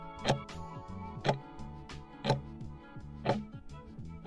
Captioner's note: timer ticking